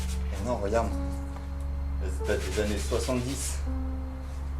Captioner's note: speaks French